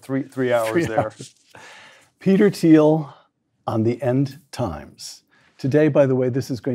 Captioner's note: laugh